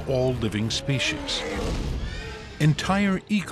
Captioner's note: roars